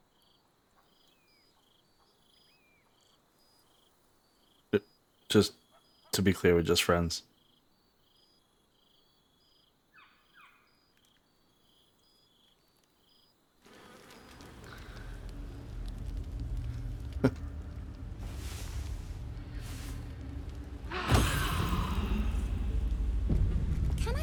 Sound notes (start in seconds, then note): 17.2 laughter